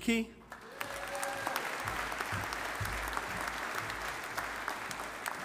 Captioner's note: audience applauding